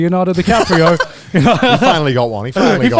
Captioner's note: laughing